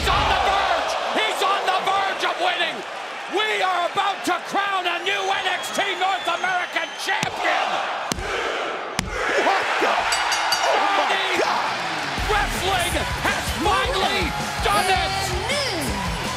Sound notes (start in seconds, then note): 11.7 bell ringing